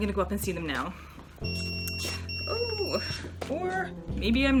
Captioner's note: pager goes off